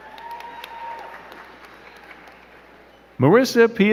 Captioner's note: crowd cheering and clapping